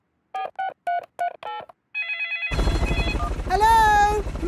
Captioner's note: dialing; phone ringing